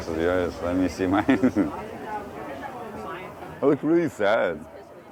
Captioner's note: laughs